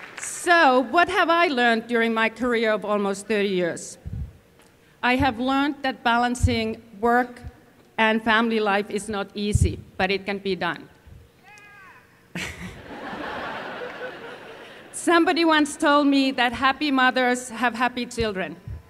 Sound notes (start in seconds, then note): 12.3 laughter